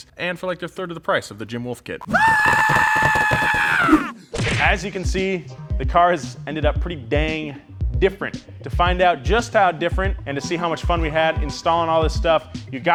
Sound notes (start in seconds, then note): 2.0 screams